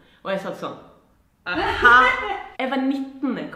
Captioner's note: haha